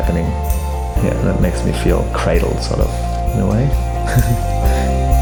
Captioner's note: chuckling